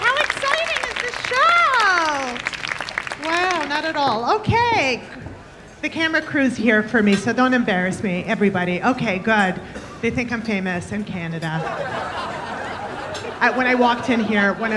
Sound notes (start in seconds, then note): 1.9 applause fading; 11.6 audience laughing